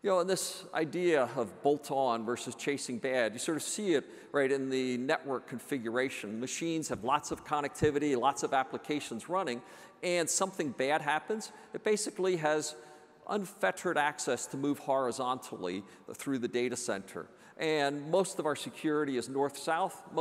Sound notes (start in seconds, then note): none